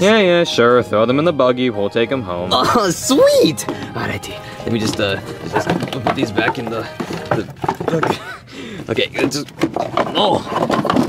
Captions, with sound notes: - Yeah, yeah, sure. Throw them in the buggy. We will take 'em home. - Oh, sweet. All righty. Let me just uh, put these back in the, okay, let's just (box clanking).